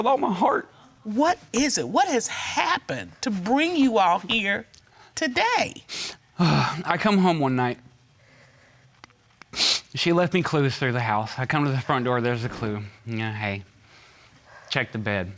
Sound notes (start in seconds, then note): 6.4 sighs; 9.5 sniffles